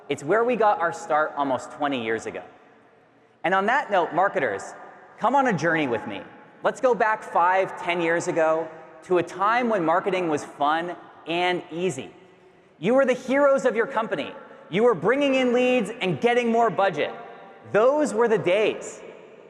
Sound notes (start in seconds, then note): none